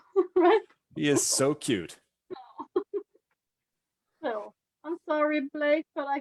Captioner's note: chuckles